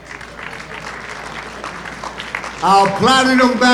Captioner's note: audience applauding